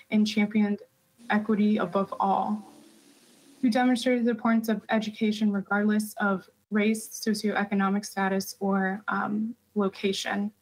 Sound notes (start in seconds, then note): none